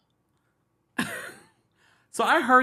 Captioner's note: laughs